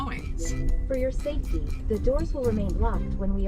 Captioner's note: automated voice in car